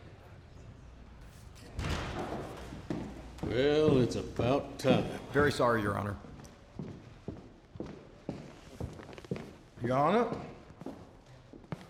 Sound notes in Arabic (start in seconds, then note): 0.0 الناس يثرثرون بهدوء; 7.7 خطوات